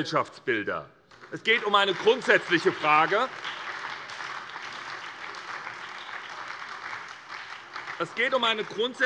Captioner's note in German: Beifall bei der SPD